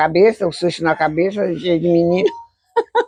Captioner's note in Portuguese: Risos